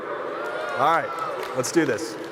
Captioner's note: crowd applauding